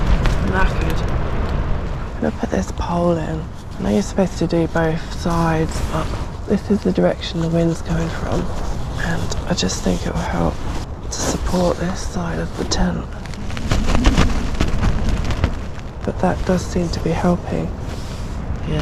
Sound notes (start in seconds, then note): 13.7 wind